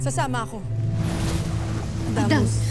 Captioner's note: sparkling whoosh, energy swirling